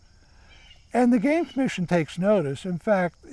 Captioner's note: birds chirping